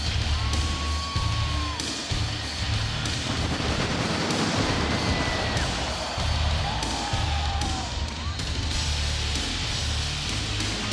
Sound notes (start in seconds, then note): 3.7 fireworks explode